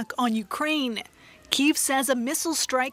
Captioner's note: sound of siren